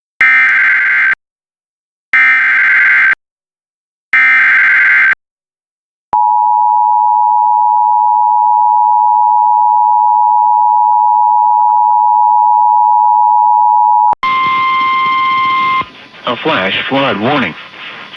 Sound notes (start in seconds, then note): 0.1 alert Tones Playing; 5.8 beep Noise Playing